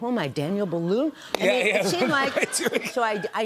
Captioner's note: laughter